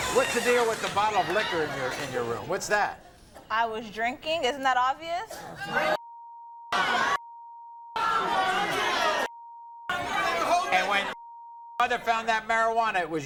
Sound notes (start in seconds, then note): 6.2 beeps; 6.7 audience shouts; 9.1 beep